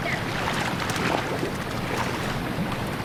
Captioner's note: splashing